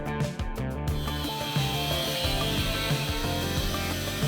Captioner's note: welding